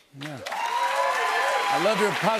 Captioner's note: cheers and applause